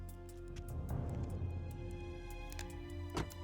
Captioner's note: click